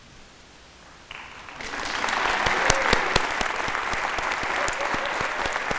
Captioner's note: audience applauding